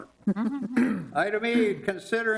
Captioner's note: people chuckling